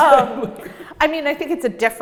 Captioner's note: laughs